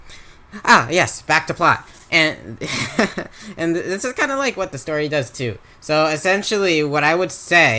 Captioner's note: laughs